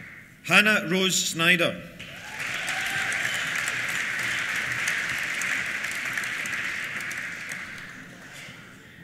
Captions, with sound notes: Hannah Rose Snyder. (CHEERS) (APPLAUSE)